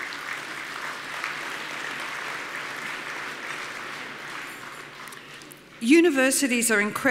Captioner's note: audience applause